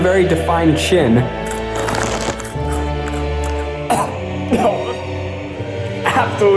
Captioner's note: crunching sound